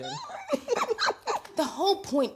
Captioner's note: laughing